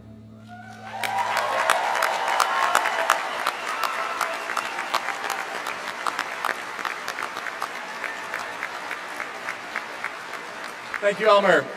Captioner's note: applause